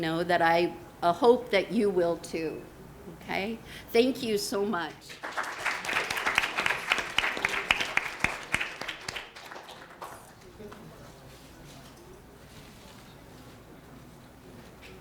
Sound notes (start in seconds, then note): 5.0 students clapping